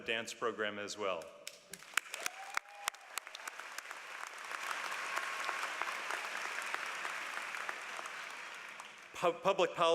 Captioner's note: applause